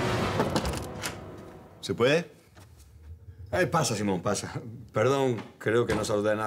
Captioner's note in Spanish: Toques en la puerta